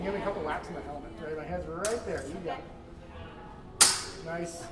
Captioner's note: metallic clang